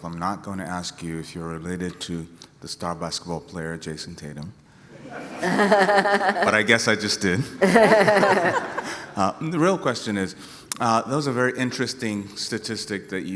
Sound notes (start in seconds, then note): 7.5 laughter